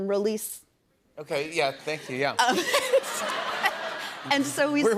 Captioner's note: laughs